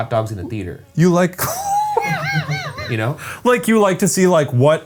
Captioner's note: laughs